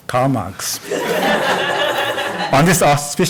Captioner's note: audience laughs